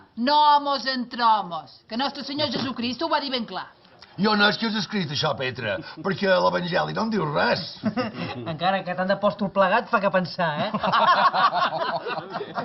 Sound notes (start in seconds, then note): 8.1 laughs; 10.6 they laughs